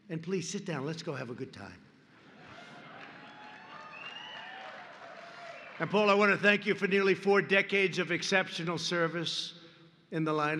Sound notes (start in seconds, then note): 2.4 applause